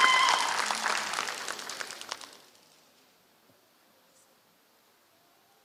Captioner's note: applause